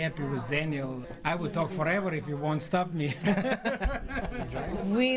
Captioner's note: laughs